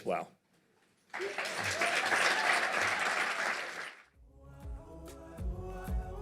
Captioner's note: applause